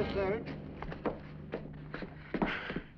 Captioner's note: sighs